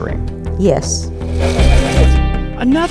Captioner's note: projector whirs